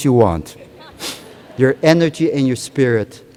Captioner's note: laughter